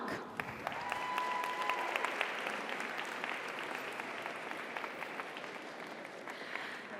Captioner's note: audience applauds; audience cheers